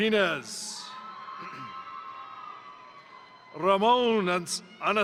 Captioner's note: crowd cheering; crowd applauding